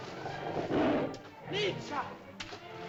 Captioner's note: water splashes; dinosaur growls; water splashes